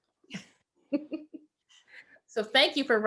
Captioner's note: both laughing